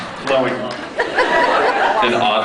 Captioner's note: scattered laughs